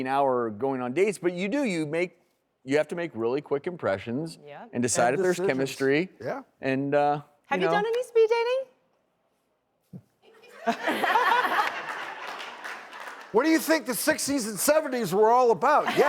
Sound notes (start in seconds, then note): 10.6 audience laughs